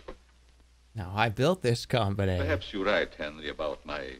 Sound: imitating Norman Osborne

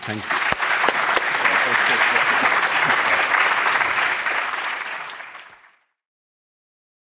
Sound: audience applauding

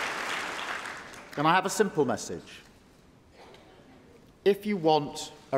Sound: applause

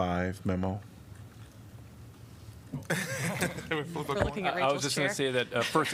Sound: laughter

